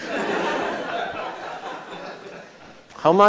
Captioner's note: laughter